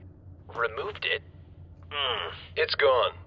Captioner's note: groans